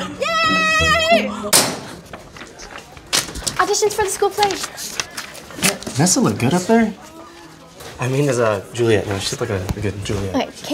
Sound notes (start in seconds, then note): 1.6 locker door slams